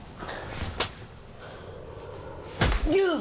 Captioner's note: breathing heavily; groans